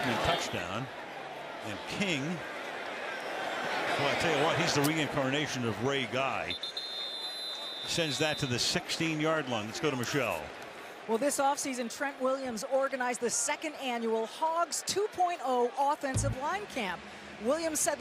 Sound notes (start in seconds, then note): 6.5 whistle blows